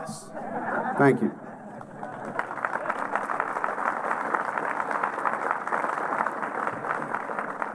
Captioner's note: applause